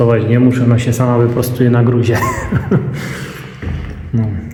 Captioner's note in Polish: śmiech